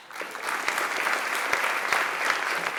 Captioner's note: applause